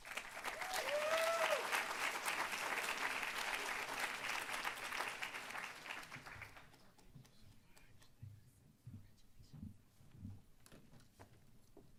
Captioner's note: applause